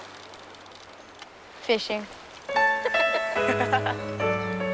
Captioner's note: laughs